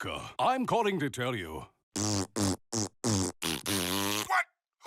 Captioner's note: blowing raspberries; through telephone